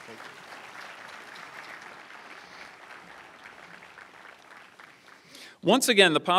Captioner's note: applause